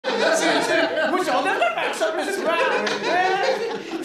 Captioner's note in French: rires